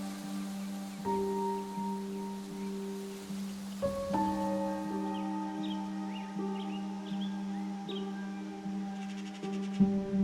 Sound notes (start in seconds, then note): 0.0 tranquil music; 5.6 birds chirping